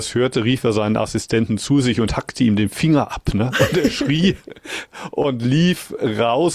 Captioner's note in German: gelächter